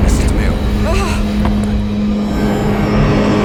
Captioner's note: Katie groaning; suspenseful music